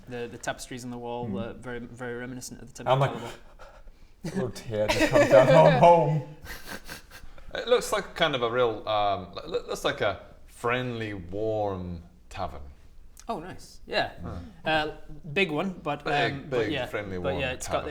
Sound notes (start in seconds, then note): 3.0 chokes up